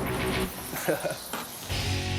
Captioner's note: laughs